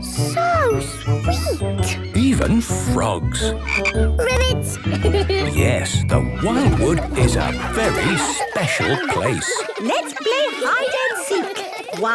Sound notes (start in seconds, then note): 3.5 croaking; 6.3 giggling